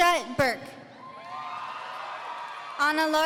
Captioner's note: audience cheering